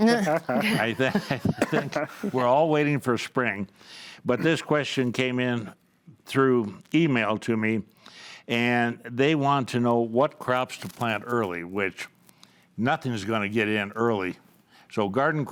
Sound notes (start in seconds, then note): 0.0 panels laughing; 0.0 chuckles; 2.0 panels laughing